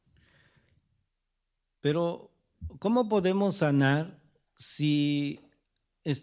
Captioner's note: speaking spanish